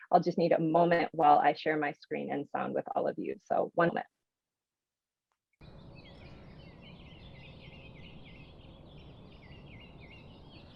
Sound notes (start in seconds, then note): 5.6 birds chirping